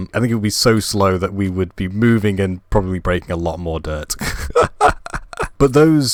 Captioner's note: laugh